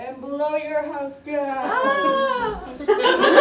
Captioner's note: audience laughter